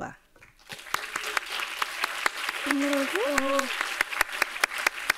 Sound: everyone applauding

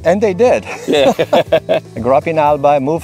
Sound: laughs

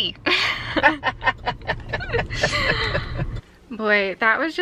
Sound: laughing

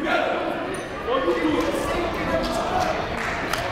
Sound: shouting

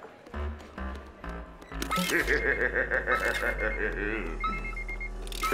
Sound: evil laughing

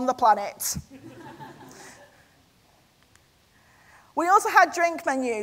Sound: audience laughter

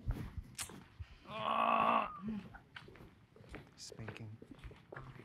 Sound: grunts faintly

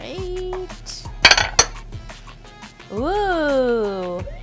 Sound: glass clangs

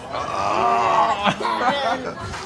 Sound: groaning

